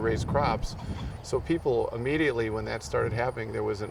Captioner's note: pheasant clucks